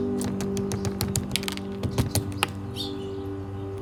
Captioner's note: bird pecks food